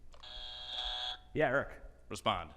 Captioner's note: buzzer buzzing